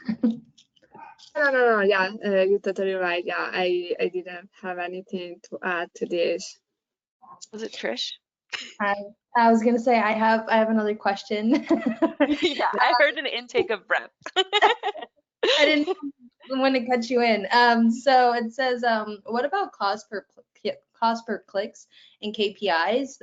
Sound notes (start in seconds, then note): 14.2 laughing